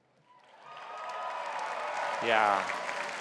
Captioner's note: applause